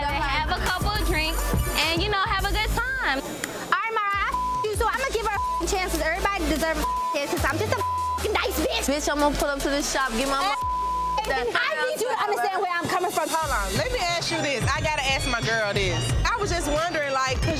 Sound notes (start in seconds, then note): 4.1 beep; 11.2 beep